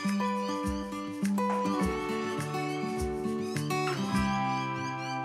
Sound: cheerful music; bird chatters in distance

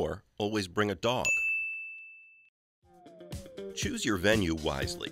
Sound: bell dings

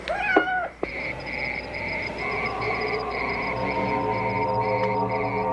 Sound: Antigone meows; insects trilling; tense music

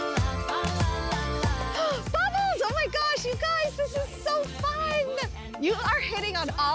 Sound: gasps

